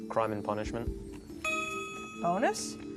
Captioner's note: ding